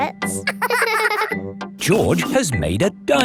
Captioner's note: both laughing